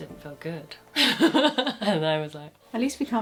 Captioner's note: laughing